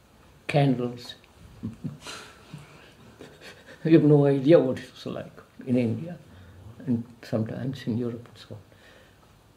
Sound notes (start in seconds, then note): 1.6 laughs